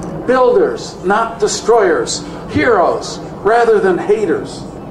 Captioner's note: none